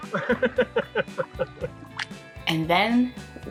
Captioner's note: laughing